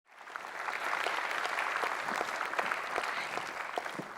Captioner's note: audience applauding